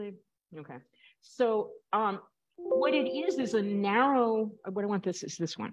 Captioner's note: computer chimes